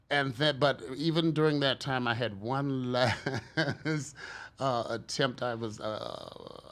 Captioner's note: laughs